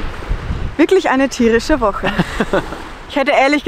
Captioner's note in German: lacht